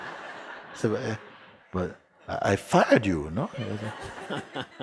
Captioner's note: laughter